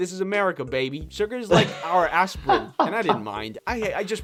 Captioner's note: laughing